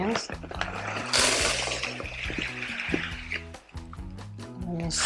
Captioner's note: pouring